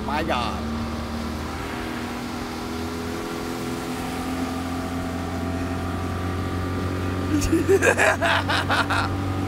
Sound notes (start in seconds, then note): 1.3 motor running; 7.3 laughing